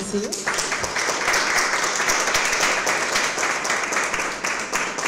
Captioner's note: audience applauds